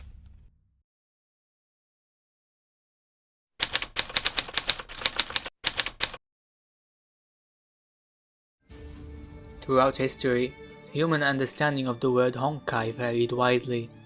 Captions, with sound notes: [Typewriter sounds] Throughout history, human understanding of the word "Honkai" varied widely.